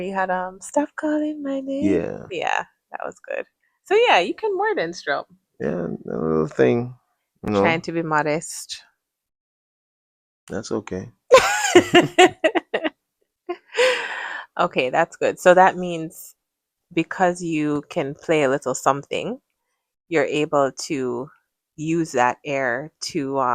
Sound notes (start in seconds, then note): 11.3 laughter; 13.0 gasps